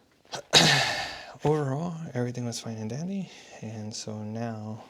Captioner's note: sighs